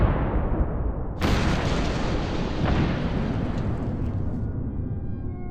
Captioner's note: explosions